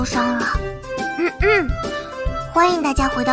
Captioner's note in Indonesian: Uhuk